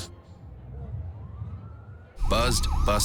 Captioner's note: siren